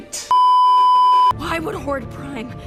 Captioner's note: beeeeeep